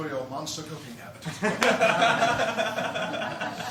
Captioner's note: laughter